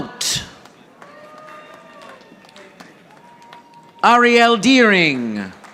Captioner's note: audience applauding